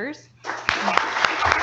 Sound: audience applause

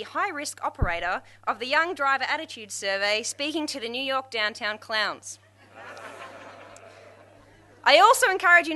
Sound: crowd laughs

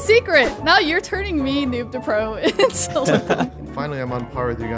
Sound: laughing amusingly

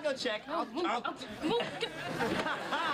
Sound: arguing

